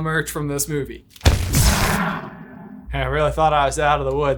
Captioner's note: explosion